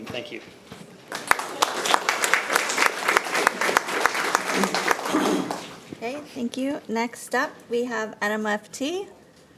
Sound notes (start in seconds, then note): 1.0 audience applauding